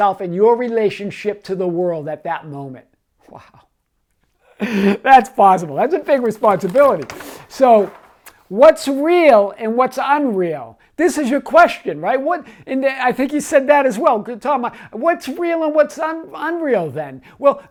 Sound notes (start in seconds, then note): 4.6 chuckles; 6.8 paper rustling